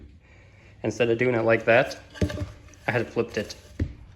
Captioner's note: board Thunk